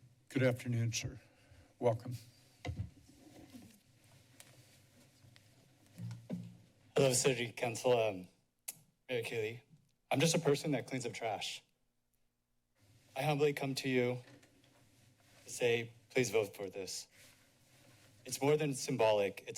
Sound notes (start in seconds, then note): 2.4 short silence